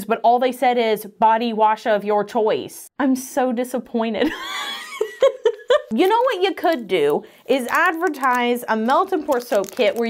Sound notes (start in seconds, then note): 5.0 laughs